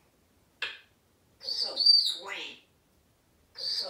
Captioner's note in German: smooch